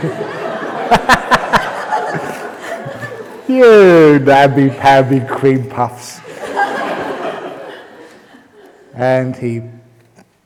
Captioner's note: laughter; laughter